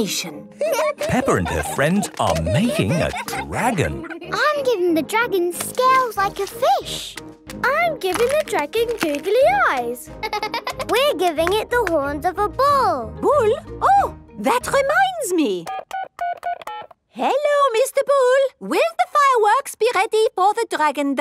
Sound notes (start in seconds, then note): 0.5 giggling; 8.6 laughing